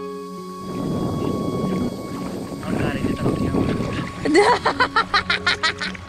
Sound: cackles

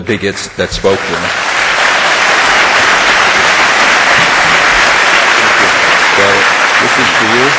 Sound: audience applause

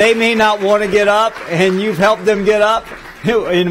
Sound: applause

